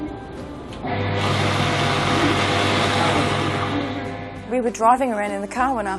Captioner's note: shredder whirring